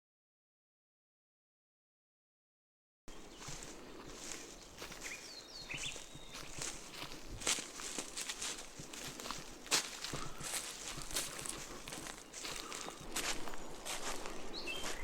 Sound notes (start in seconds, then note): 4.0 footsteps of a group walking in the forest